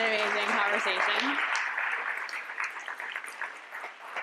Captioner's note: applause